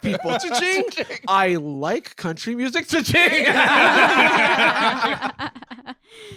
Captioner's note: all laughing